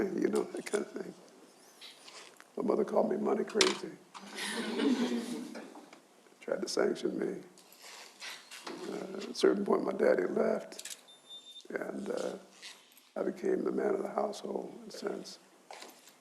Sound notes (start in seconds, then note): 4.3 audience laughs